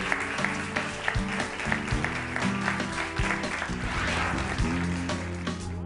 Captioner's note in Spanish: Aplausos